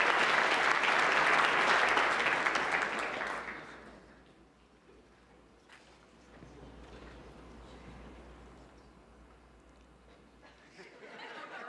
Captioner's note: applause